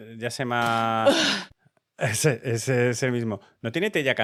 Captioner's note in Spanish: suena "Ugh!"